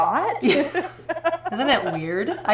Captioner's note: laughing